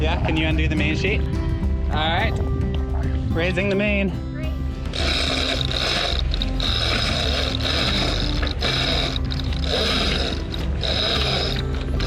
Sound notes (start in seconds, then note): 4.8 ratchet buzzes